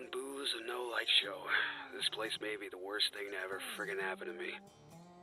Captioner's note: sigh